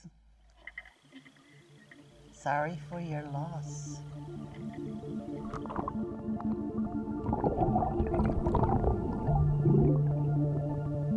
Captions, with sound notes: Sorry for your loss. (water bubbling) (somber music)